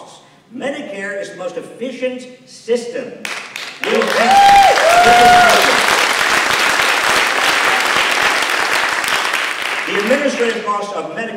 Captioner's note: applause